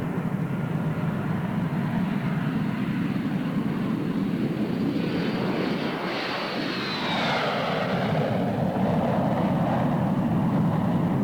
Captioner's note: aircraft engine noise